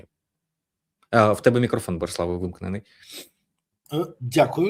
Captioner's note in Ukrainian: сопіння